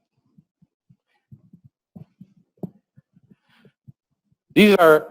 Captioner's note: pause